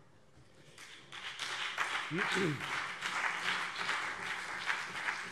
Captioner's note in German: Beifall BÜNDNIS 90/DIE GRÜNEN und vereinzelt CDU